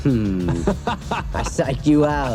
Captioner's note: laughing